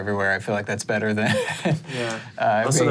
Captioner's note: chuckles